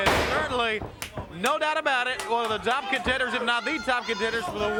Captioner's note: blows thudding; hands thudding